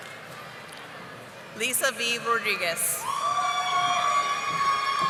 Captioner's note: audience applauding